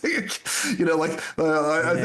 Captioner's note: laughing